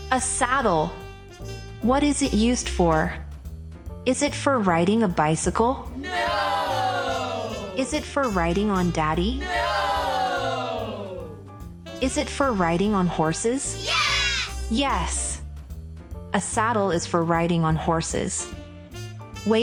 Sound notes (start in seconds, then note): 6.1 group of children shout “Nooooo”; 13.5 group of children shout “Yes”